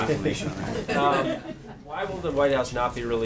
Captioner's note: laughter